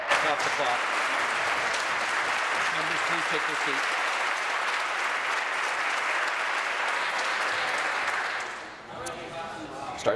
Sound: applause

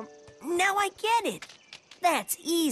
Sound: none

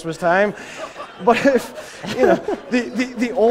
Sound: laughter

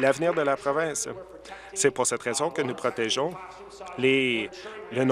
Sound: applause

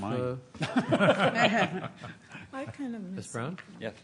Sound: laughter

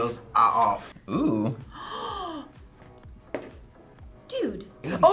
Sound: gasps

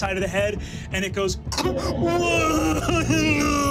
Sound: crying

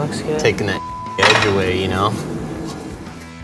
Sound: beep

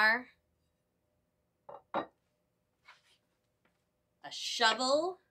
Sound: silence

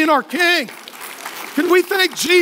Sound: applause

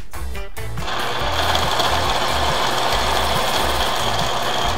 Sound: electronic whirring

